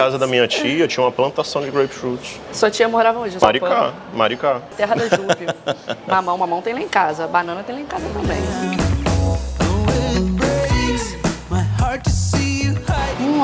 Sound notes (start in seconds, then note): 4.9 laughs